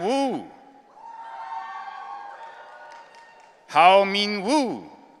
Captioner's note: audience cheering